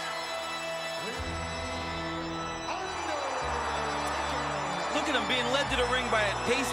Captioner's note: crowd cheers